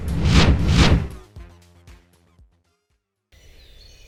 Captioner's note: wind whooshing; birds cawing and chirping